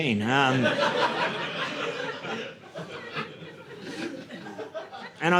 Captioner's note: audience laughing